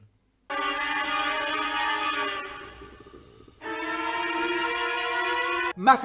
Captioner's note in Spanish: sonido extremadamente perturbador